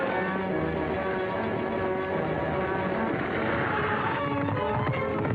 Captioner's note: intense music; horses galloping; wagon rattling